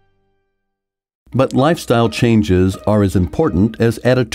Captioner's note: voiceover